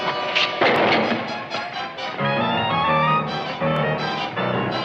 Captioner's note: bucket crashing